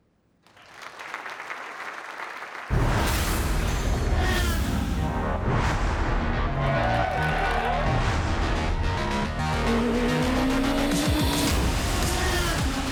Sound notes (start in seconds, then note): 0.4 applause; 3.2 revving engines; 8.1 revving engines and techno music playing